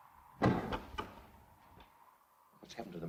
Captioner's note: wind blows; door closes